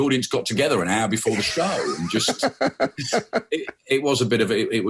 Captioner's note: laughs